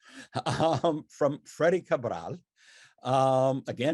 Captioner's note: chuckles